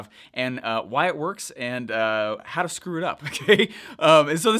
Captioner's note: giggles